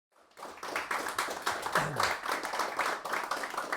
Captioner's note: applause